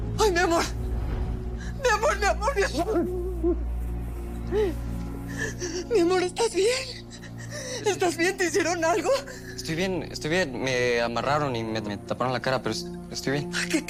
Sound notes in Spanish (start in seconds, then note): 2.6 Sollozos